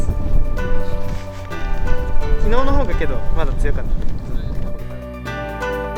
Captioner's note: windy